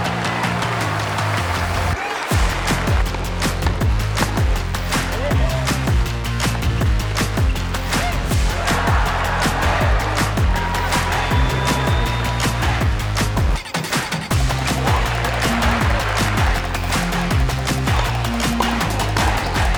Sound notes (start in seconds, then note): 1.9 upbeat music continues; 8.2 crowd cheering